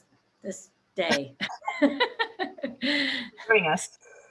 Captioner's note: chuckles